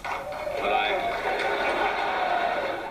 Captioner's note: audience laughs